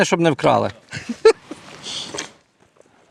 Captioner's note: laughs